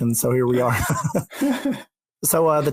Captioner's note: laughs